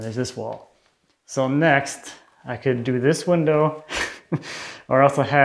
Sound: laughs

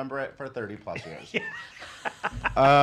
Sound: laughs

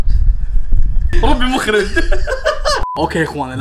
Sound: laughs

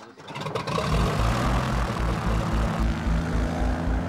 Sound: engine starts

